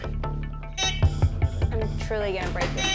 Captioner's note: hooter buzzing